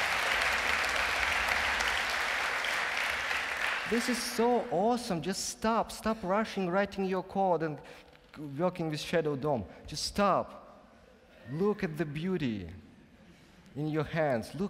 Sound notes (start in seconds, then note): 4.2 whispers; 4.9 applause